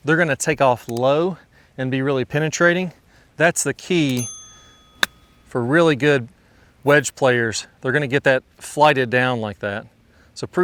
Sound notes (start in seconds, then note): 3.9 bell dinging; 4.5 club knocking the ball